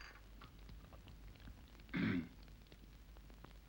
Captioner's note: clears throat softly